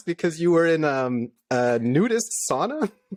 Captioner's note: laughter